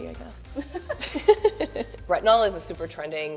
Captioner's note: laughing